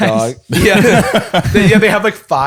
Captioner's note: laughter